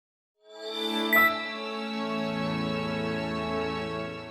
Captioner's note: chime dings